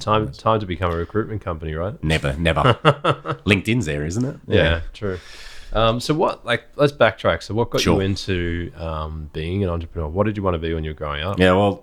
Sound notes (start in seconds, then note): 2.1 laughing